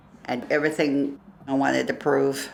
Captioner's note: none